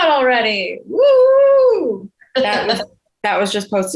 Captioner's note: exclaims